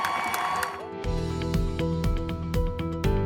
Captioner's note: cheers and applause